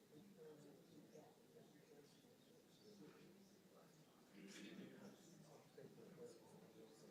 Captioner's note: audience noise continues